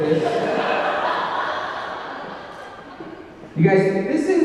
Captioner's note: audience laughing